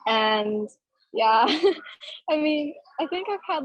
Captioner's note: laughing